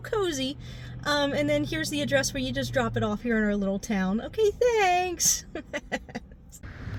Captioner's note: laughter